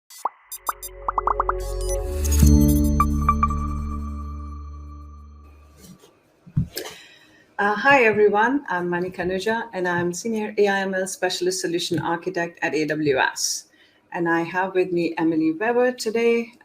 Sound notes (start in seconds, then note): 0.2 logo popping; 0.6 soft music